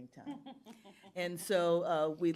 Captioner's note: laughs